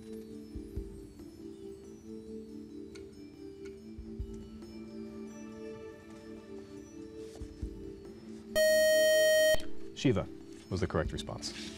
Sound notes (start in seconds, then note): 8.5 time-is-out buzzer